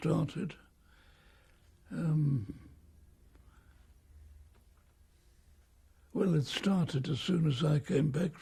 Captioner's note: pauses for 6 seconds